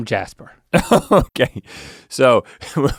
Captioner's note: laughs